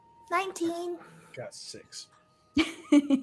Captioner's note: laughs